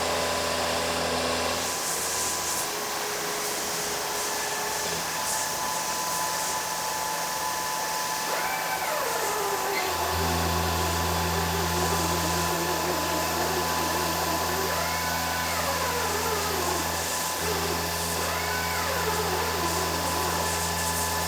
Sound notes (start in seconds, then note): 0.1 CNC machine rumbling; 8.6 CNC machine whirring; 10.4 CNC machine rumbling; 17.8 CNC machine rumbling